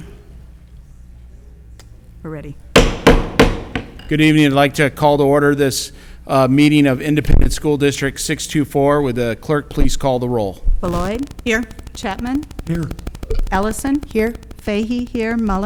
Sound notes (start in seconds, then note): 2.8 gavel banging